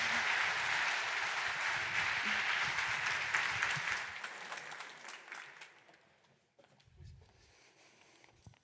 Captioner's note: applause